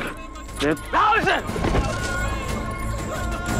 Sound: thud

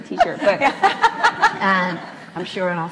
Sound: laughs

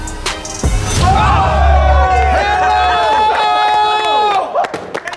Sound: crowd cheering

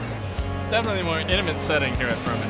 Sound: voiceover

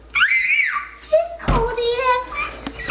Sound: shouts

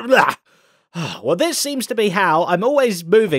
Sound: sighs

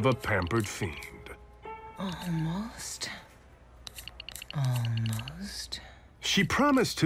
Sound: combination lock clicking

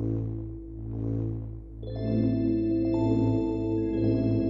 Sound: pulsating

